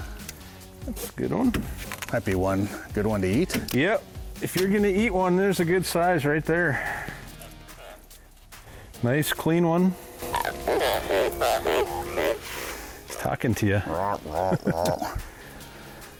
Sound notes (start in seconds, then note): 10.2 fish squeaking; 14.0 groaning